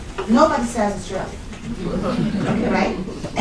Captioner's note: laughter